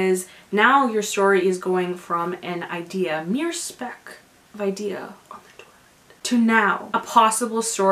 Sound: whispers

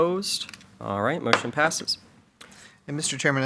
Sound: gavel pounds

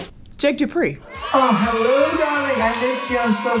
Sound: audience cheering

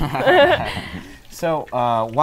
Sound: laughter

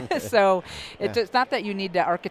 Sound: laughs

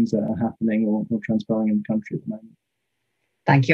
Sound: speaking faintly

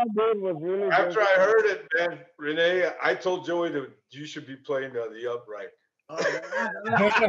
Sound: laughter

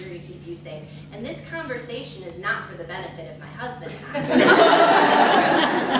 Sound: laughter

